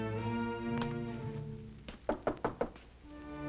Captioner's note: knocking